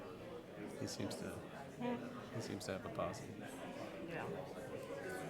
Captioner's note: group murmuring